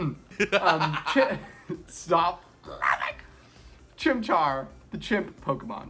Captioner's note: laughing